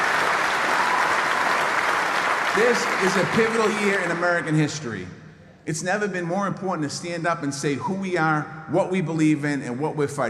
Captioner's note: applause